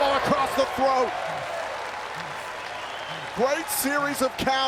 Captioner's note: applause